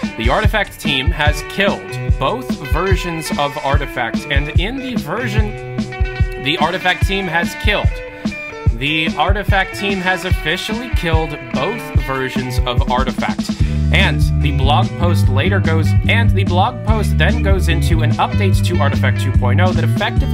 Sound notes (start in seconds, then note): 10.7 whispers; 13.8 whispers; 16.6 whispers